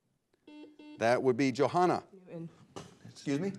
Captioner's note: buzzer blares